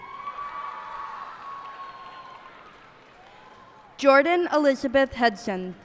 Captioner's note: cheers and applause